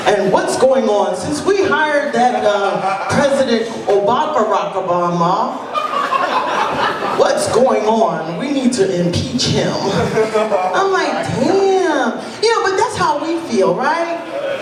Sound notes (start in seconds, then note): 5.6 laughter